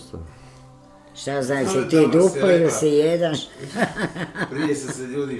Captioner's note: laughter